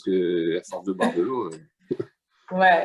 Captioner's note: laughter